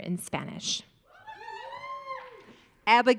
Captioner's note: audience cheering